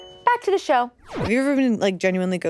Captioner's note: chime twinkles; star whooshing